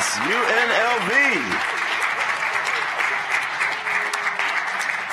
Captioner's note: cheering